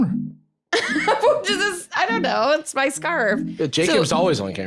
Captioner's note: laughs